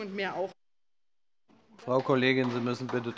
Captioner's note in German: Beifall bei der LINKEN